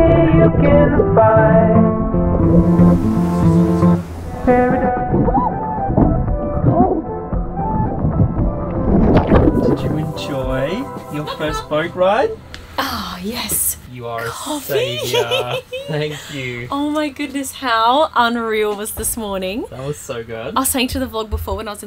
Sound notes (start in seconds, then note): 9.3 watering splashing; 14.7 laughing